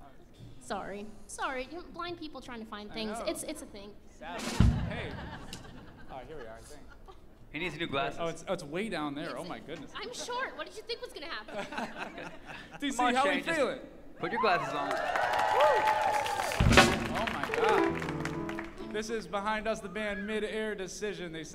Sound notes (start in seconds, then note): 4.4 audience laughs; 11.5 band members laugh; 14.2 audience cheers and applauds